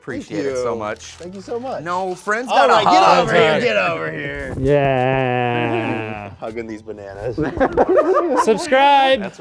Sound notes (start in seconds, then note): 7.2 all laughing